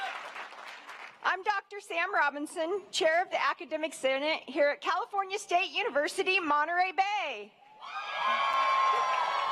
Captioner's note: cheering